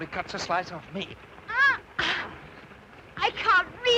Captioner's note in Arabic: آيريس تتأوه